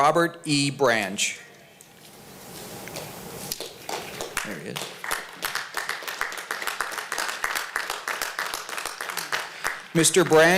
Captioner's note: applause